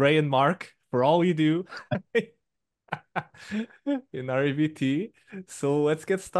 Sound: laughs

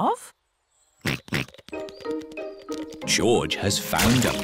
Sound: snorts

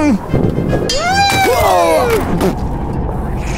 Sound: zb cries out; margore roars

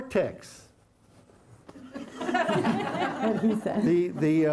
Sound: laughter

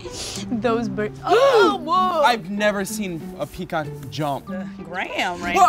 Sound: both gasp

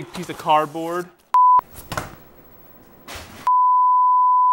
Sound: signal loss beeping; signal loss beeping

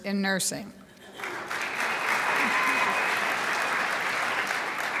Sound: crowd applauds

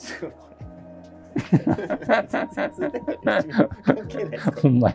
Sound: laughing

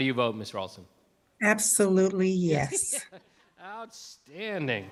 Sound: laughs

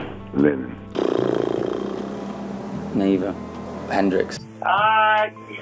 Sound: blows air out

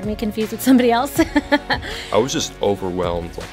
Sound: laughs

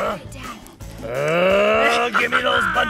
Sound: growls

